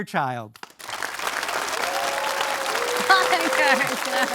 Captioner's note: audience cheering